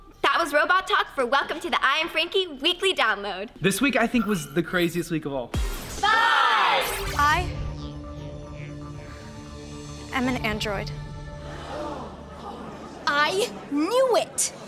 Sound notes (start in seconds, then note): 11.4 gasping